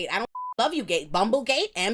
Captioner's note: beep